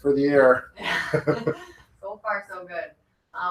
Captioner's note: laugh